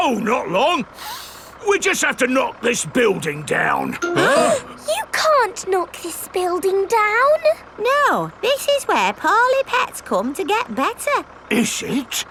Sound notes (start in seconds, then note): 1.0 sniffs; 4.2 all gasping